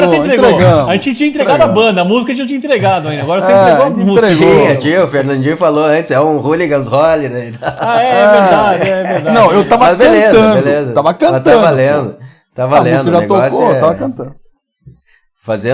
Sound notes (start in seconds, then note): 7.4 laughs